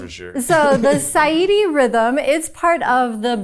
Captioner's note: chuckling